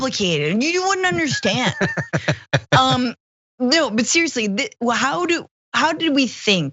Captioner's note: laugh